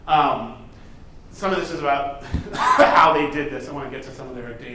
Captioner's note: coughs